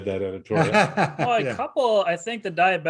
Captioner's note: laughs